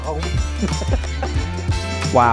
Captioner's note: laughs